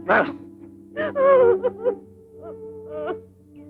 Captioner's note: crying